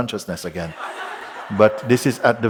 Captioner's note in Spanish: Risas